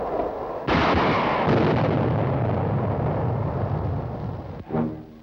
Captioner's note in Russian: звук взрыва